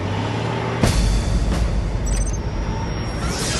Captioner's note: CHIRPS на устройството